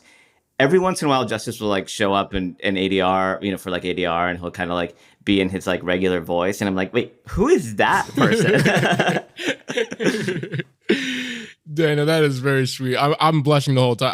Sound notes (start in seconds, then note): 8.0 laughter